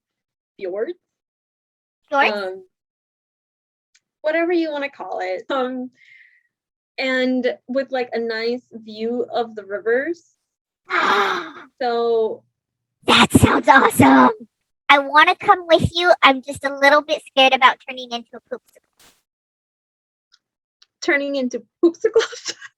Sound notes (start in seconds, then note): 10.9 super excited gasp